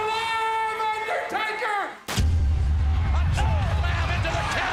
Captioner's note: explosion